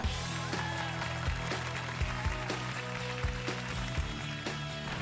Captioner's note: applause